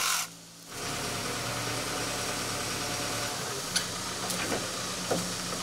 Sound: telehandler engine droning

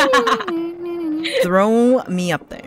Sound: idly humming

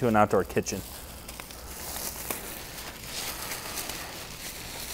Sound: wrapper crumpling

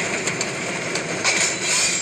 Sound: clanking

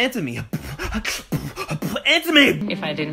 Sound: beatboxes

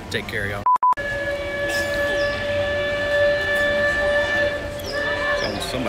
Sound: loud riverboat whistle

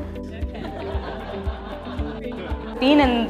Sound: laughter

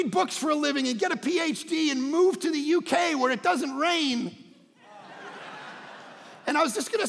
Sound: congregation laughing

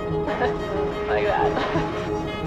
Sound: laughs

